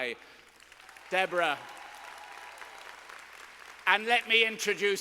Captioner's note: students applauding